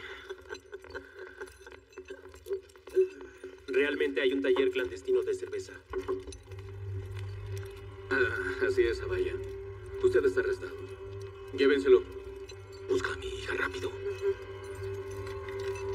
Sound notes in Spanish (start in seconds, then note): 0.0 Ríe